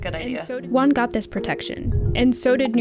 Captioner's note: voice-over